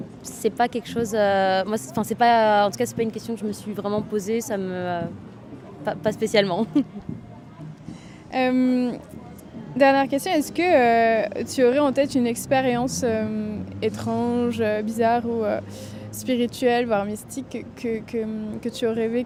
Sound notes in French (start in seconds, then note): 6.6 rires